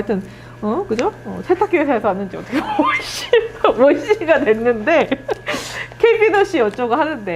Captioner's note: laughs